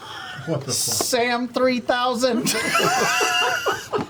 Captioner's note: robot voice; laughter